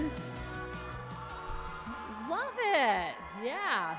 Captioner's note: cheering